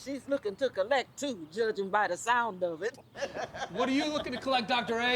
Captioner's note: laughs